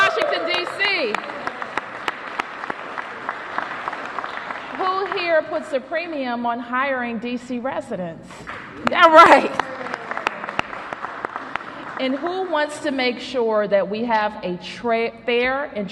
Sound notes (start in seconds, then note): 8.7 cheers and applause